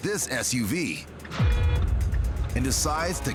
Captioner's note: horn honks